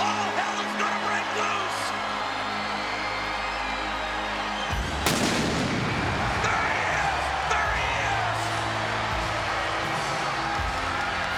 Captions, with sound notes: All hell is gonna break loose. (crowd cheers) (explosion booms) There he is! There he is! (crowd cheers)